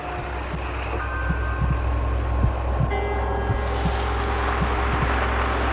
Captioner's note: engine rumbling; dramatic music; heart beat thudding